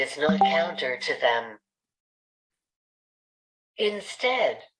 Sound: chat notification sound

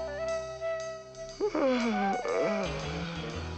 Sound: yawns

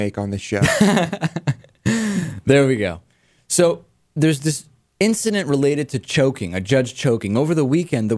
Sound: laughs

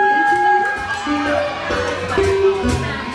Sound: crowd cheers

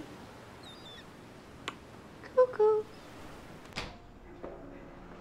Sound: squeaking

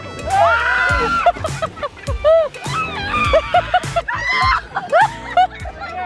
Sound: screams; laughs

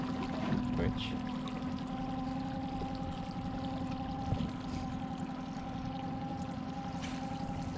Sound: boat engine idling; rod whipping

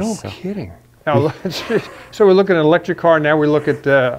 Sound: chuckles

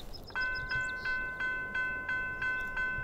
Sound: crossing bell begins

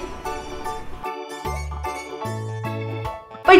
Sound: laughs

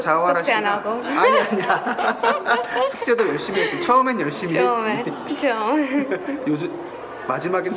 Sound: hahah

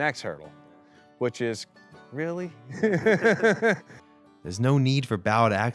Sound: laughs

